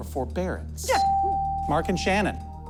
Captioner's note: bell dings